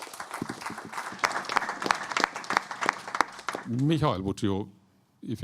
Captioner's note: applause